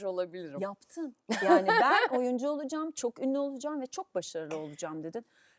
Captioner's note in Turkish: kahkaha